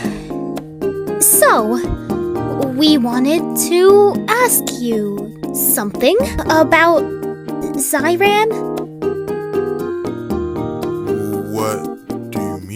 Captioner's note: sighs then awkwardly talks